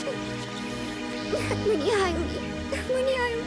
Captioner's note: laughing